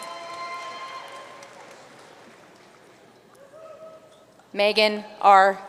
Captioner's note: audience cheering and applauding